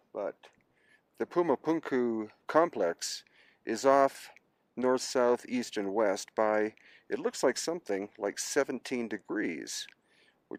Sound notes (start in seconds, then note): none